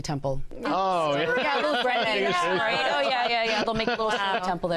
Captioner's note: laughs